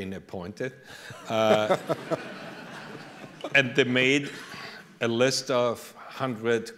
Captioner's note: laughter